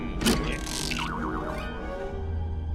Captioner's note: boing